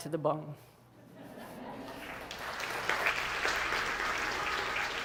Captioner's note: audience chuckles and applauds